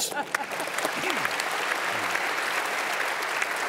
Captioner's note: applause